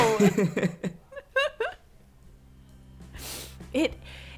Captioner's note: both laugh